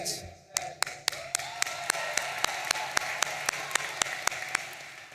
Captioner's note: audience cheering